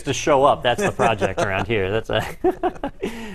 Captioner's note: laugh